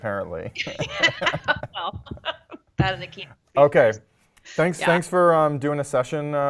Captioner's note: laugh